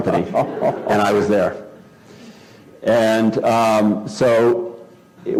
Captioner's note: laugh